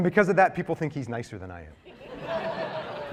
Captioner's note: laughter